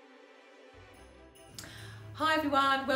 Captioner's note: string music playing; jingle bells ringing